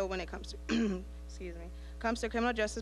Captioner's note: clearing throat